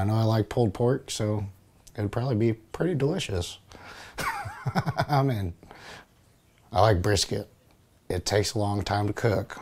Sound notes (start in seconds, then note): 4.2 laughing